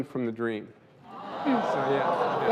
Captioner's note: audience gasps